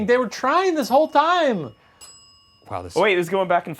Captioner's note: bell dinging